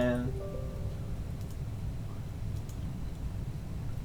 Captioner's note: computer chimes